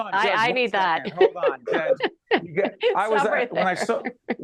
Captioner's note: laughing